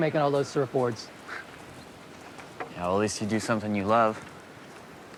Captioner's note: scoffs